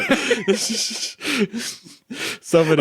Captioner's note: chuckling